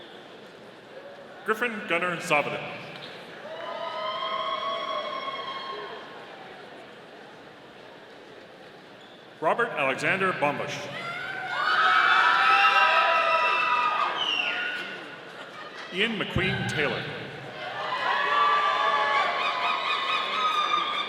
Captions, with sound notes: Griffin Gunnar Zavadil. (audience cheering) Robert Alexander Bambusch. (audience cheering) Ian McQueen Taylor. (audience cheering)